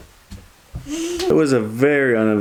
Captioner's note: laughs